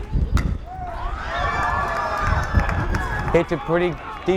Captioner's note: bat cracks